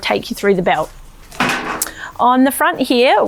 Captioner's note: flask thuds